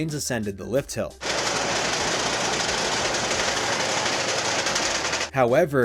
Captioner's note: chattering lift noise